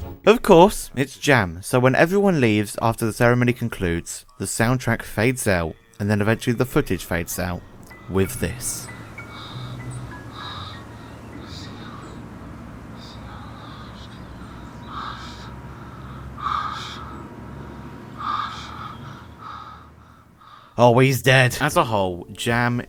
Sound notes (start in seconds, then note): 12.1 uncomfortable breathing; 16.9 worried breathing